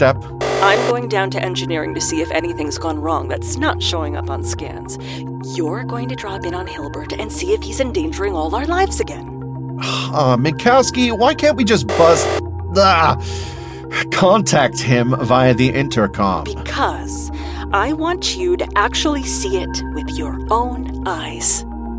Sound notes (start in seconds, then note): 11.9 buzzer